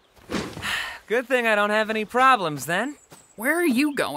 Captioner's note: sighs